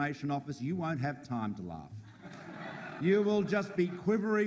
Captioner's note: audience laughs